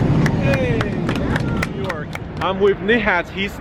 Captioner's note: light applause